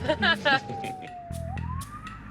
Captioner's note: laughter; siren wailing